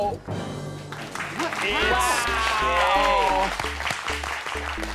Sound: clapping

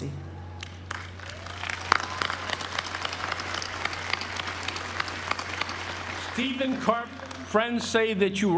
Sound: applause

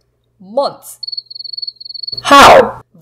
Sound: crickets chirping

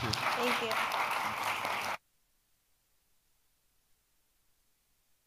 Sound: audience applauding

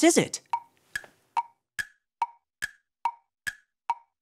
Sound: clock ticking

